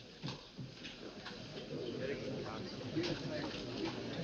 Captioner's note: people chattering